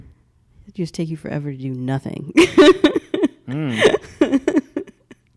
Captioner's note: laughs